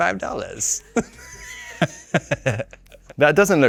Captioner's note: Robert laughing